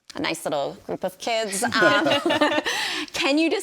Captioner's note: hosts laugh